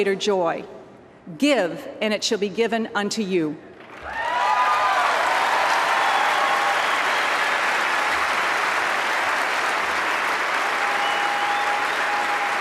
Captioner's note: applause